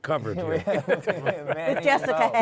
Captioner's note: laughter